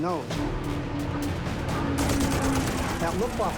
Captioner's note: gunfire